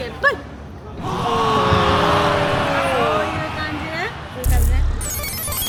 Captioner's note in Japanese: 叫び声